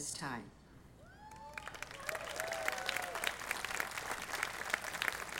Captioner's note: audience applauding